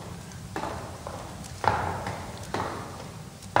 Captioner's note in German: Klappernde Schritte